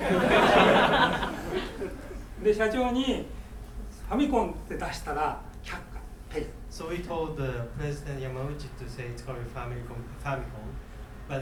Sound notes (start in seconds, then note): 0.0 laughing; 2.8 speaking in foreign language